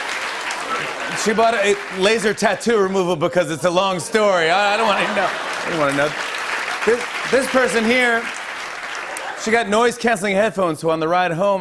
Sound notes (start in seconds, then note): 4.1 laughter